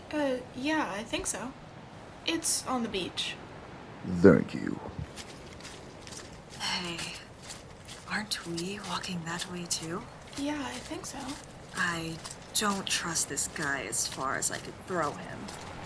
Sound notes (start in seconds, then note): 5.9 footsteps